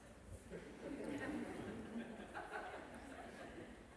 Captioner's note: laughter